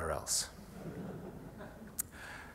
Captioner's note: laughter